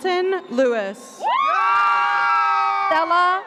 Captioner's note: classmates whooping